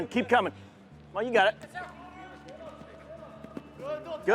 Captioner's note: team chatters